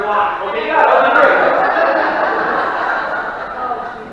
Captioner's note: laughing